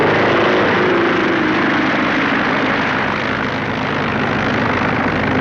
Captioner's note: plane taking off